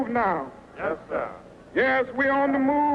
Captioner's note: voiceover